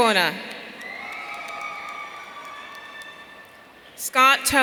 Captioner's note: audience cheering